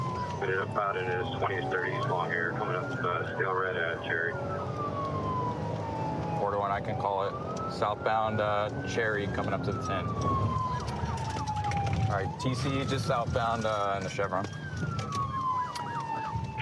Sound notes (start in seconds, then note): 10.0 sirens